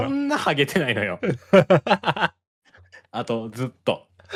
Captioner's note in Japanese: 笑い